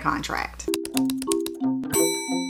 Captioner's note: typing sounds